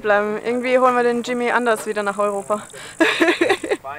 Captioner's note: laughter